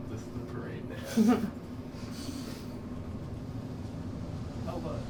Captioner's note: some chuckling